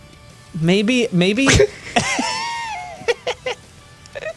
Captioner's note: laughs